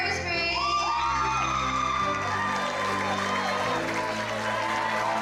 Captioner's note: everyone cheering